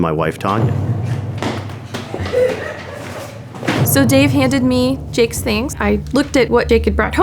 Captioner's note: running